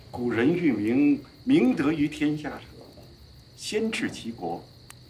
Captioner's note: hablan un idioma extranjero